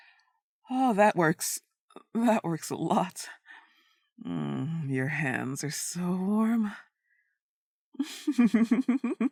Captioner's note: laughter